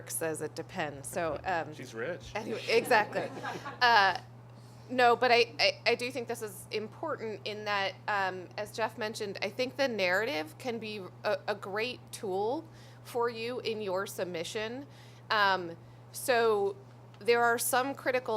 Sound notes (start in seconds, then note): 2.4 laughter